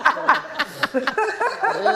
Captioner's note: laughing